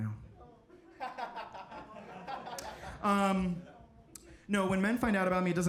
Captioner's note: audience laughs